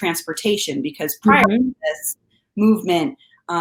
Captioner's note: audio distorting